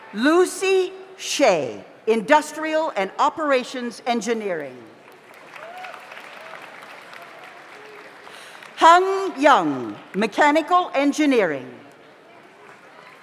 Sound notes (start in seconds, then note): 5.0 audience applauds